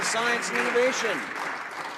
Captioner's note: some Applause